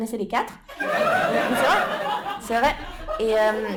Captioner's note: laughter